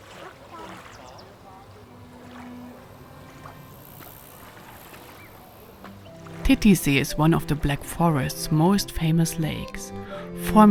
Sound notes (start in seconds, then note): 1.5 water splashing